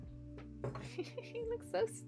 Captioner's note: laughing